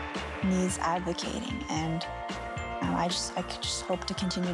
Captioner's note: applause